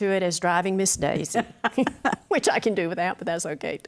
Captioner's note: laughs